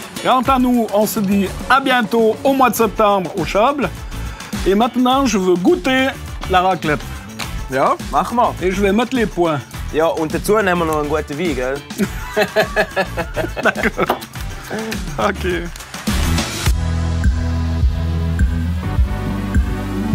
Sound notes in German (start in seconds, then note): 11.9 lacht